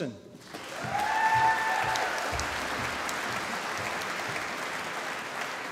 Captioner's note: applause